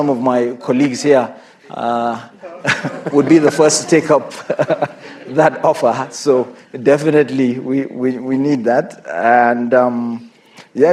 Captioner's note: laughter